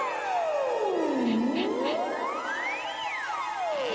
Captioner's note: sniffing